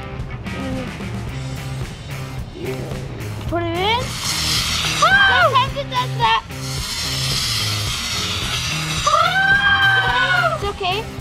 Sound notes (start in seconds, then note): 0.3 upbeat rock music; 7.6 loud spurting; 9.6 slow motion shouting